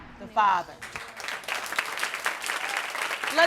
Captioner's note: audience applauding